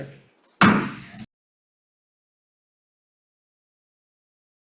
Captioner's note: gavel bangs